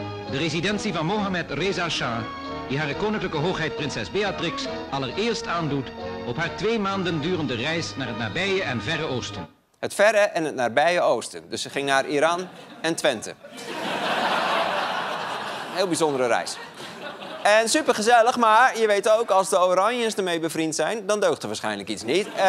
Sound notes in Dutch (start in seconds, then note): 17.2 gelach